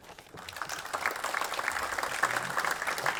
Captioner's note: applause